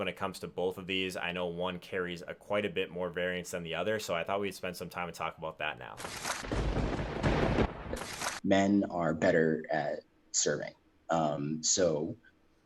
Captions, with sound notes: when it comes to both of these. I know one carries quite a bit more variance than the other, so I thought we'd spend some time and talk a bit that now. (lightning strikes) - Men are better at serving, so,